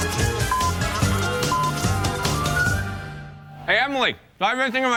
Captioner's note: beeping